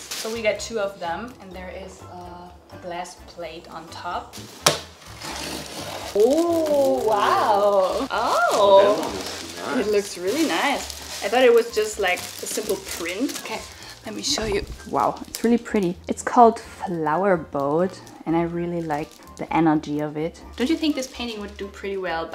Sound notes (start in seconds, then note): 4.5 tape tearing; 5.1 box rumbling; 11.6 plastic cover crackling